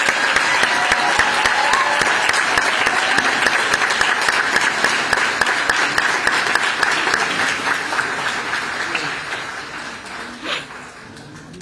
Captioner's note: applause